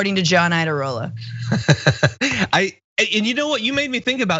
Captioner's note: laugh